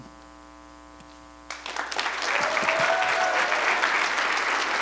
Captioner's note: applause